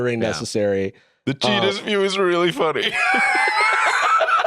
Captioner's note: laughs